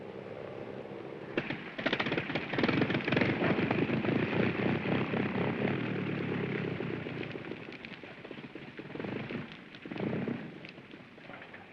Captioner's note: airplane engine sputters